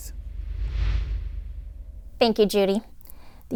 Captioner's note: air whooshing